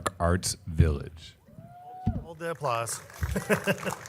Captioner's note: audience applauding